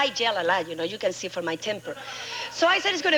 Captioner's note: audience laughing